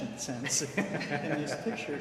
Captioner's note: laughs